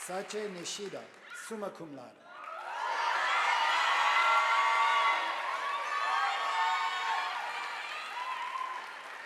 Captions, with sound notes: Sache Nishida summa cum laude, (audience applauding)